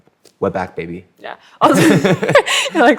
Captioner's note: laughter